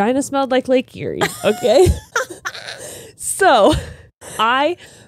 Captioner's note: laughs